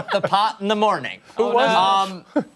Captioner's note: laughter